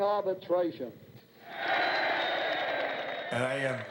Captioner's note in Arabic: المتظاهرون يهتفون